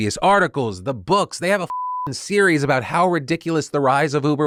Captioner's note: beeps